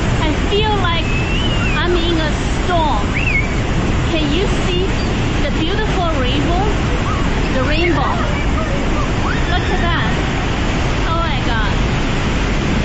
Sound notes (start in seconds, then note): 3.3 people are screaming